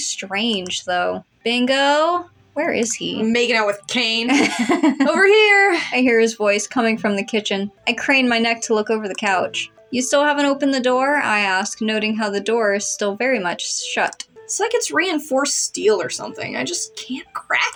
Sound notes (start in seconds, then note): 4.3 laugh